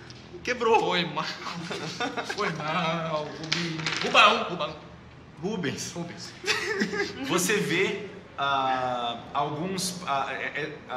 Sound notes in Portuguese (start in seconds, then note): 6.4 Risada